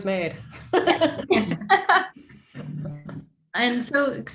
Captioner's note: group laughing